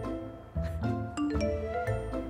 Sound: phone alert sounds

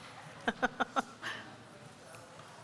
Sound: laughter

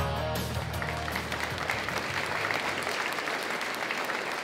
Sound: audience applauding

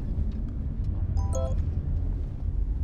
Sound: cell phone chimes

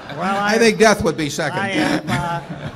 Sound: laughter

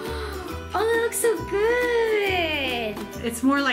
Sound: gasps

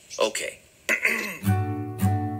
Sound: clears throat

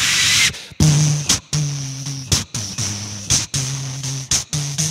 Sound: making beat box noises; making whistling noise

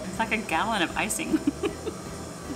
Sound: laughs

